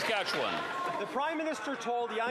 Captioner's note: some Applause